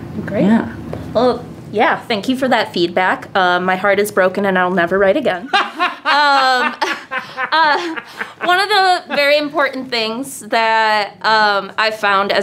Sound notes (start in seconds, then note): 5.5 laughter